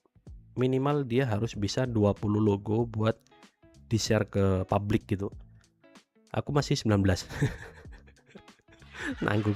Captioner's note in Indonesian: tertawa